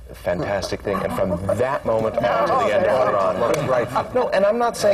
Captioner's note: laughter